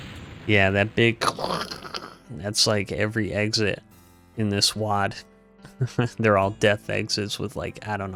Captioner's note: 6 year old explosion noise